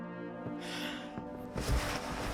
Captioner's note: sighs